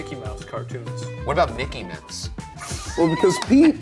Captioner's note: laughs